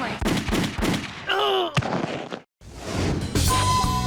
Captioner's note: gun shot; jazzy music